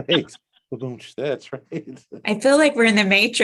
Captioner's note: laughter